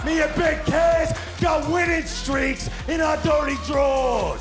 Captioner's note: crowd cheering